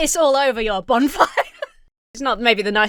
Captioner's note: Emma laughs